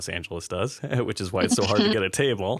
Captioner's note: laughter